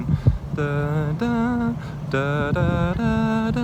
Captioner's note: humming